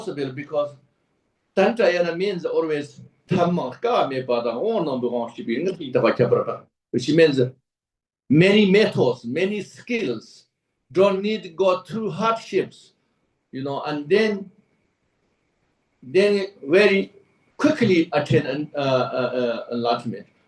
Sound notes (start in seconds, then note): 5.2 tibetan